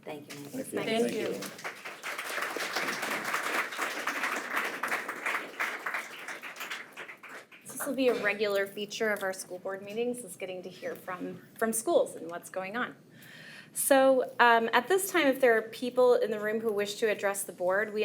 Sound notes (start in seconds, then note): 2.6 attendees applaud